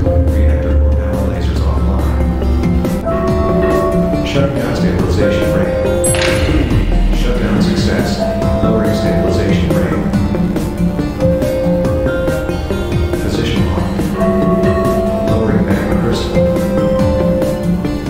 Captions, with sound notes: Reactor core power lasers offline. *Announcement Chime* ASAS: Shutting down stabilisation ring. *Stabilisation ring powers down* Shutdown success. Lowering stabilisation ring. Position locked. *Announcement Chime* ASAS: Lowering magma crystal.